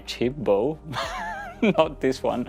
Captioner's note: laughs